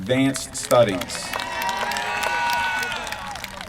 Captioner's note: applause